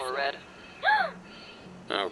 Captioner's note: gasp